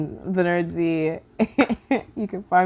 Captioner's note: laughing